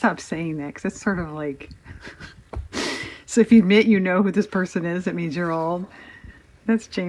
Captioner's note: laughs